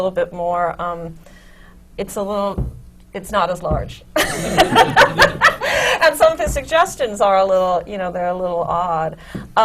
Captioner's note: laughs